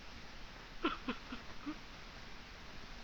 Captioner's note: sobbing